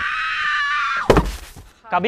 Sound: thud

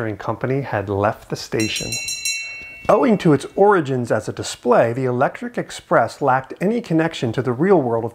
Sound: bell rings

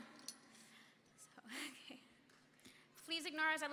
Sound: laughing

